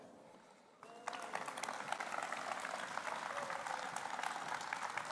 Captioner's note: applause